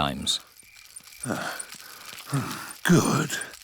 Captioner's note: panting